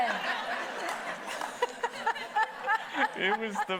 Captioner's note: everybody laughing